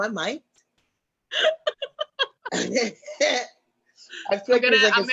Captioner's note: laughs